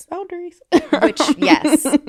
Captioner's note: laughing